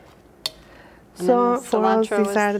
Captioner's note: plastic spoon taps